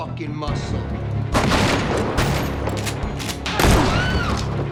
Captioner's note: gun shooting